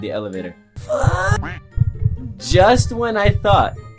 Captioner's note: duck quacks